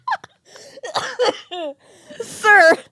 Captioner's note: laugh; coughs; laughing